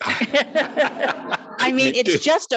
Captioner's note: attendees laughing